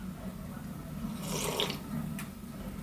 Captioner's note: sad slurp